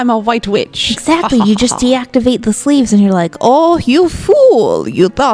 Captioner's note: in Vasilisa's voice